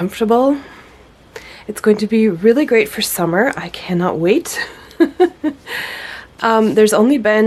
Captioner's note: laughs